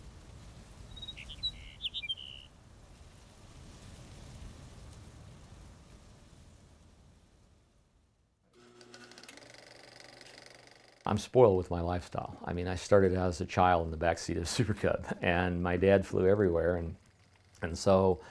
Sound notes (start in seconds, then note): 0.8 bird sounds; 4.2 wind; 8.6 projector whirl